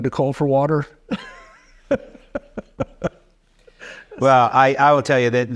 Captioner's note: chuckling